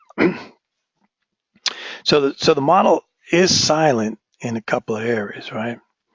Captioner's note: cough